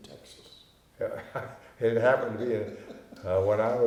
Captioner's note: laughing